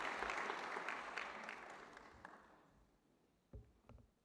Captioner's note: applause